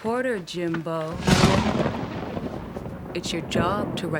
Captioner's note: thunder crashing